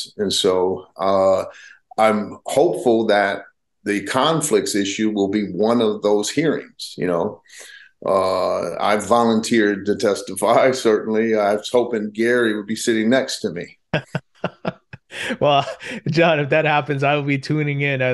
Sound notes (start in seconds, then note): 13.9 laughs